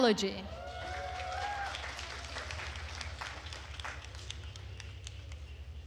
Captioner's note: attendees cheering and applauding